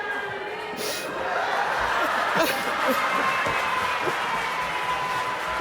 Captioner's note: audience laughing